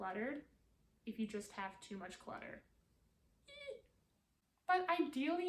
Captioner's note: eek